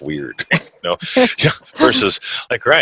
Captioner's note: laughs